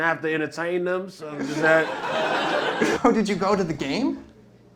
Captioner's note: laughter